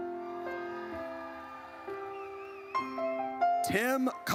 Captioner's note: audience cheers